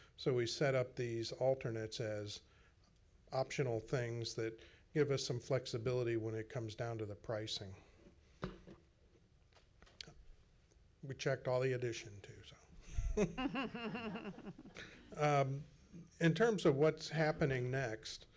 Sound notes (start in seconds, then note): 12.9 laughs